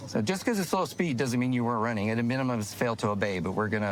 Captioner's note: none